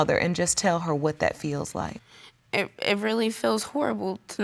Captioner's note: none